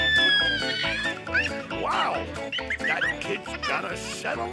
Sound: squealing

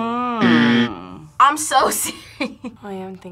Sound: laughs

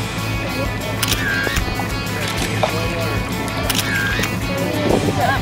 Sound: camera shutter clicking

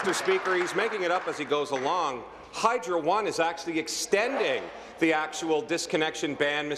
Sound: applause

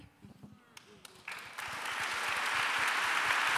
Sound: applause

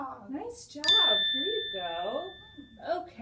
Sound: bell rings

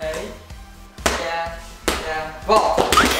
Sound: ball bouncing; screaming

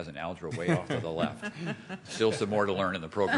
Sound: laughter

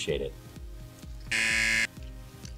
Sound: buzzer

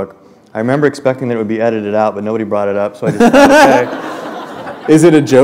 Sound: laughter

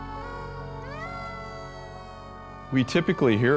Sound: siren blaring

